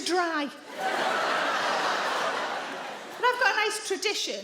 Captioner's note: audience laughing